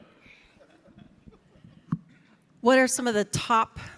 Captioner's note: audience chuckling